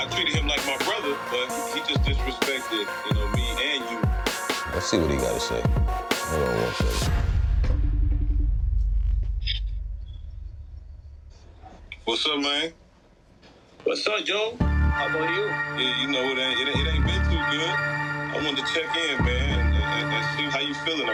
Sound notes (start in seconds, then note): 7.9 phone ringing; 14.6 dramatic music